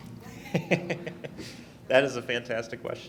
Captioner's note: laughing